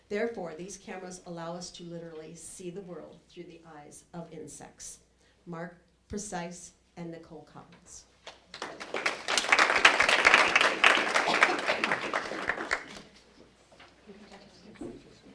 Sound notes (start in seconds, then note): 8.3 applause